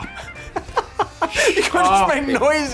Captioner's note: Eddie laughing